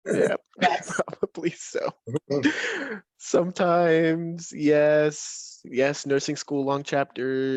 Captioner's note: laughs